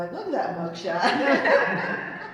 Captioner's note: laughter